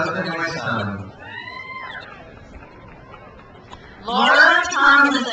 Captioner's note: crowd cheers